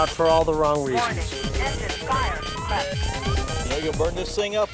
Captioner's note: automated Voice